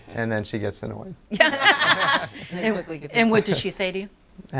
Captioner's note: all laughing